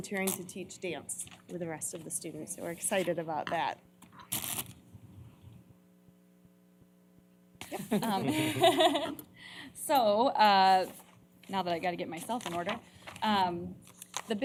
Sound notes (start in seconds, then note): 7.6 laughter